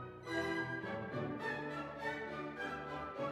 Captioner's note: none